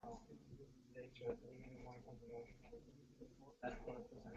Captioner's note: background chatter